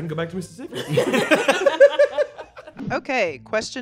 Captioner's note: all laughing